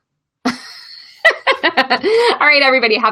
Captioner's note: laughs